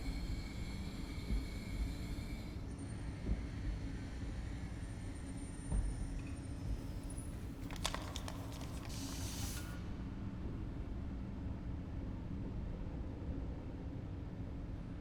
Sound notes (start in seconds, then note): 8.0 air hissing